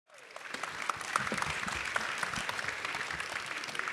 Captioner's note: audience applauding